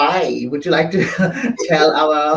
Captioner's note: chuckles